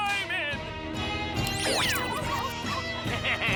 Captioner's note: dogs bark, dukey laughs